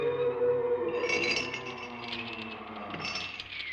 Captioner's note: door creaking and opening; wind chime chiming; door creaking and closing